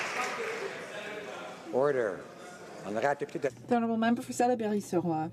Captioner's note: some Applause